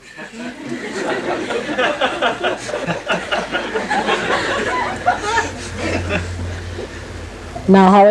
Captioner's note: laughter